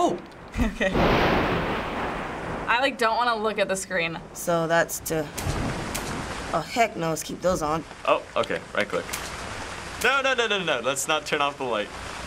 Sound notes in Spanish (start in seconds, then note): 0.1 Sorprendido; 0.9 Trueno se estrella en voz alta; 5.3 Clic interruptor de la luz